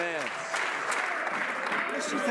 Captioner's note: some Applause